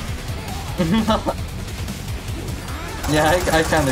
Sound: chuckles

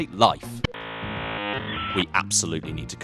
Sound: scramble sound effect

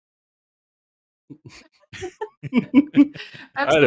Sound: laughter

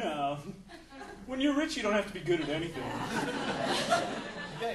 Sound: audience laughing

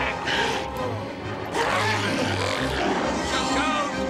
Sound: growling

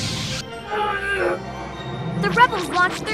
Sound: yells

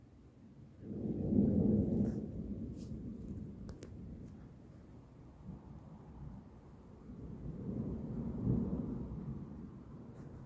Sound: quiet thunder

